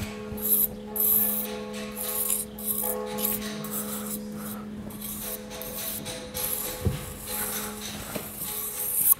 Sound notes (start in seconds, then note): 0.0 hammering and the following bell ringing in the background